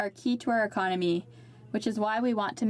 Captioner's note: speaking French